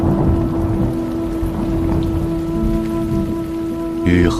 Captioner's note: wind blowing strongly